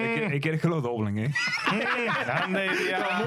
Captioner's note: laughing